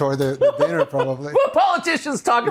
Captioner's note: tucker laughs